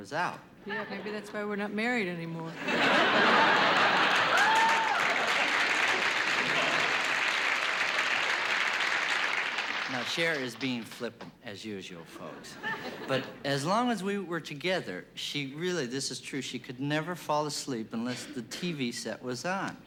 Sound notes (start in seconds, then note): 2.5 laughter; 3.5 applause